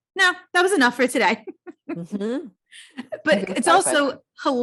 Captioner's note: laughs